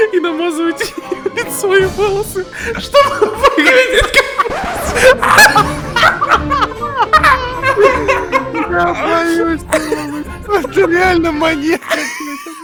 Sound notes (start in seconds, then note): 5.2 powerful laughter